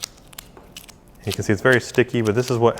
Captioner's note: sticky smacking